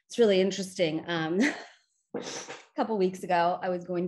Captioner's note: chuckles